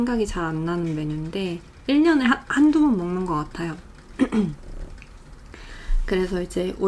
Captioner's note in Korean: 목을 가다듬음